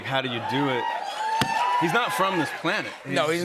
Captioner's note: cheers and applause